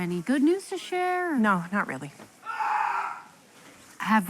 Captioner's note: patient screams